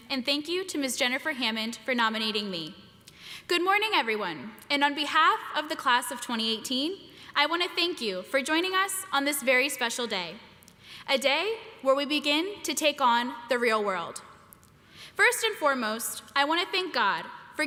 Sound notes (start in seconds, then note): none